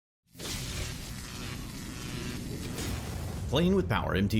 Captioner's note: electricity crackles